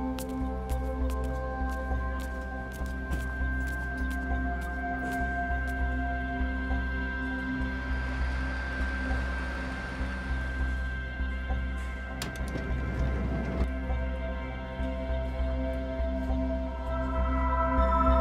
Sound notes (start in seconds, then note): 0.1 feet pattering; 8.7 car engine humming; 12.2 door handle clicks